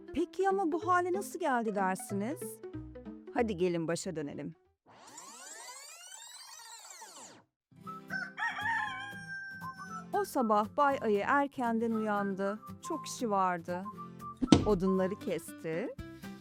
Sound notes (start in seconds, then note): 4.9 rewind effect; 8.0 morning rooster sound